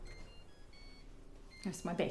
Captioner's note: ringing